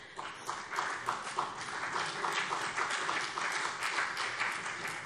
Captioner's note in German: Beifall CDU